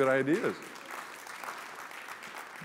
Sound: applause

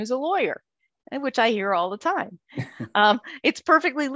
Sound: laughing

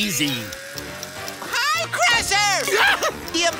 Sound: Crusher shrieking

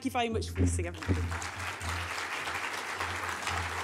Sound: applause

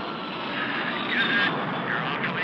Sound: Knox On Radio

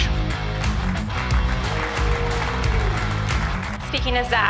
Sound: audience applauds

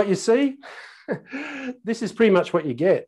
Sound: laughing gently

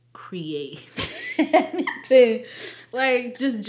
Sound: speakers giggling

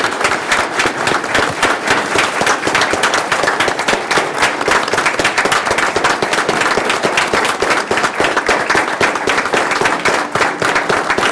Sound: applause

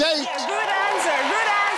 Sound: audience applauding

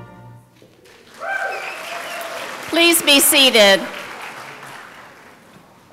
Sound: applause

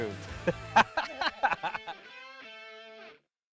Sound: laughing

